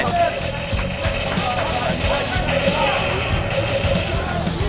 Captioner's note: gunfire